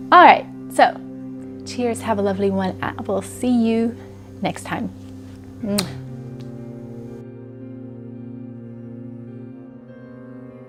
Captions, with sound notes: Alright so, cheers, have a lovely one. I will see you next time. (smooches) (soft piano music)